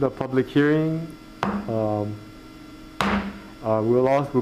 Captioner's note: gavel banging